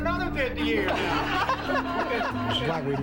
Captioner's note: laughter